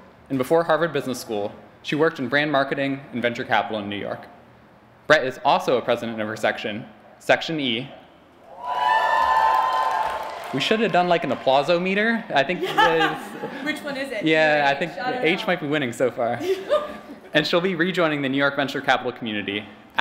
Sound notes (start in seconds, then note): 8.5 cheering and applause; 16.3 laughs